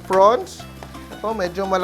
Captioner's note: sizzle